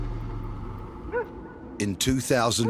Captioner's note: dramatic music; dog woofing